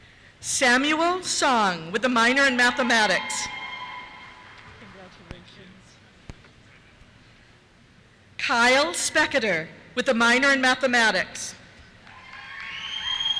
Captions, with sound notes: Samuel Song, with a minor in Mathematics. (cheers) Congratulations. Kyle Specketer, with a minor in Mathematics. (cheers)